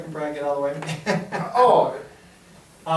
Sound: chuckles

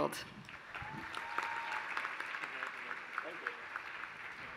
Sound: applause

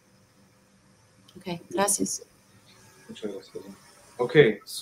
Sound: speaking in foreign language

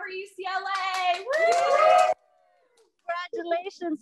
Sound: cheering and clapping

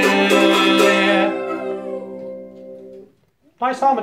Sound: harmonic whining

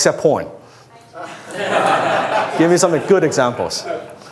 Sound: laughs

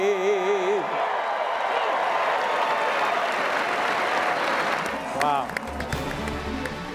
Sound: cheering

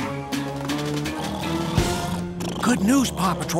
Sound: snoring

